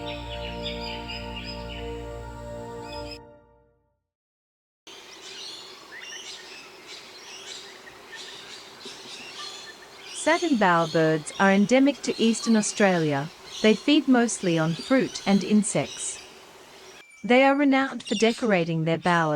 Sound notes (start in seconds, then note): 0.0 birds chirping; 4.6 Satin Bowerbird sound